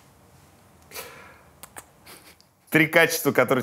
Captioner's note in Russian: дважды чмокает губами